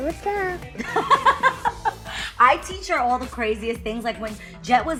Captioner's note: laughs